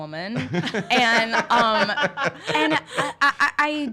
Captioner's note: laugh